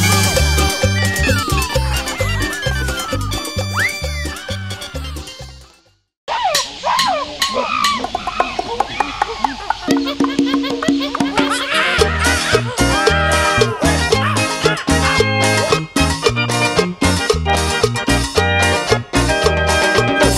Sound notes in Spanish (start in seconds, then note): 0.0 Música alegre; 7.3 Música alegre; 7.3 Sonido de monos y tambores; 13.8 Música alegre